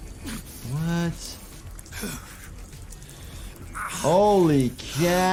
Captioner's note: Eddie Gluskin grunts